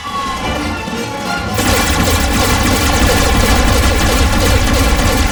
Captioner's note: gunshots